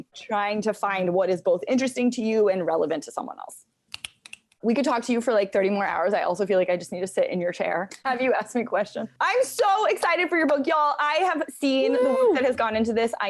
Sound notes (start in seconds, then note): 3.9 snaps